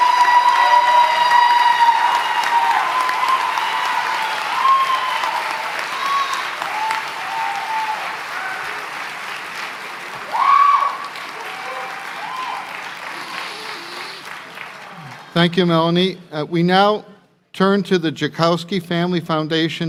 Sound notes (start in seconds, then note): 0.1 applause; 2.0 cheering; 3.0 applause